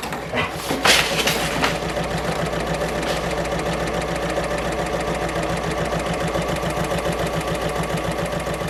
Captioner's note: sewing Machine Sounds